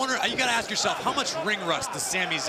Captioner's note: crowd cheering